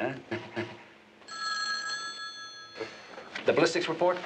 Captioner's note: phone ringing